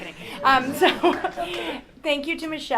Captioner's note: chuckle